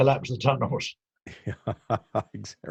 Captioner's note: laughing